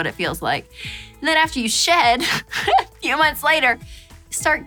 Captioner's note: laughs